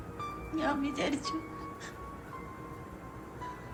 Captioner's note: sobbing